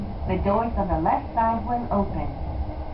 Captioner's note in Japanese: 電車内アナウンス